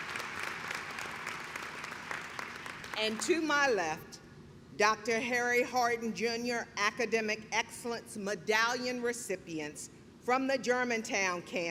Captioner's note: clapping